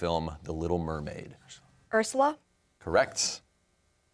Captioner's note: whispers